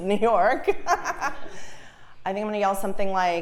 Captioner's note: laugh